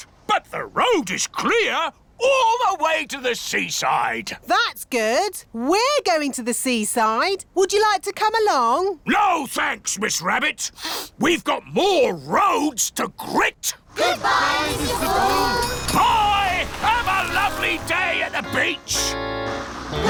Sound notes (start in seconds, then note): 10.9 sniffs